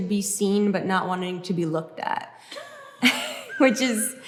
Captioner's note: Hank and Grace laugh